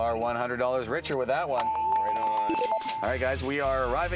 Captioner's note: bells